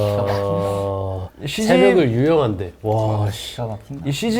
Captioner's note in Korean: 낄낄낄